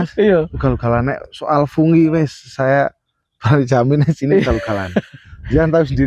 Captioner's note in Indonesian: tertawa